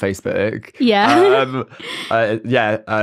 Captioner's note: laughs